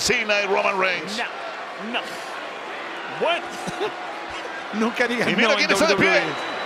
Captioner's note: laugh